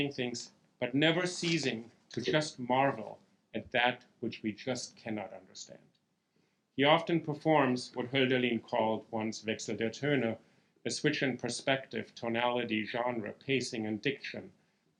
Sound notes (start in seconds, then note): 9.7 speaking German